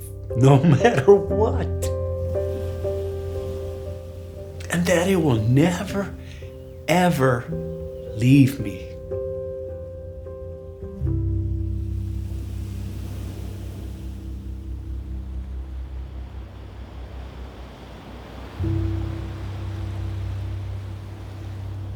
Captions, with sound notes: No matter what. And that it will never ever leave me. (waves crashing) (gentle serene music)